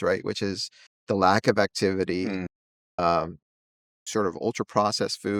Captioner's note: hums